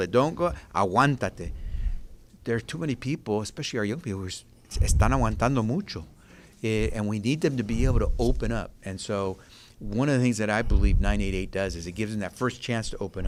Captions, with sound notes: it. There are too many people. [SPEAKING SPANISH] We need them to be able to open up so I believe 988 does is give you the first chance to open